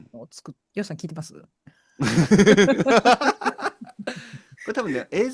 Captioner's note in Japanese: 咳払い; 笑い